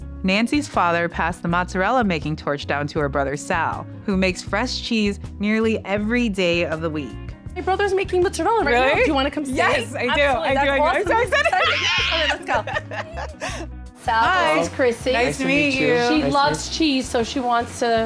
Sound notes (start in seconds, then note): 11.7 screeches